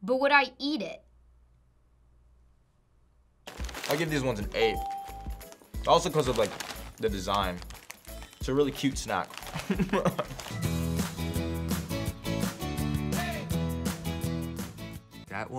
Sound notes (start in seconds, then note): 9.4 laughs; 10.8 upbeat music